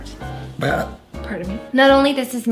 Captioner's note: burping